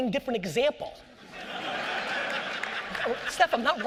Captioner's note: audience laughter